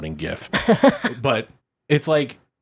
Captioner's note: laughs